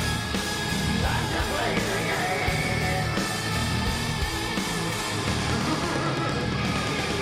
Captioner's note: upbeat music continues; laughs